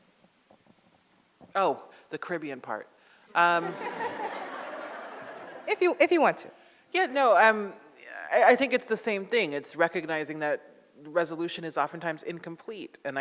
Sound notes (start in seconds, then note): 3.5 audience laughs